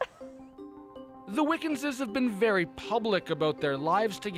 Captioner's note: laughter